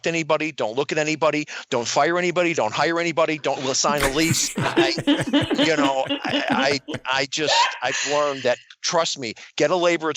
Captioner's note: laughter